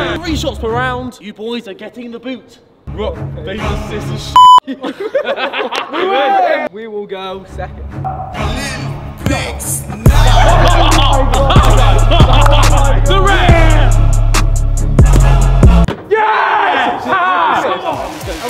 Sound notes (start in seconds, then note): 8.0 hip-hop music; 11.5 cheering